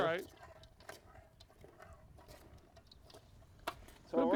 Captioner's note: bowl clattering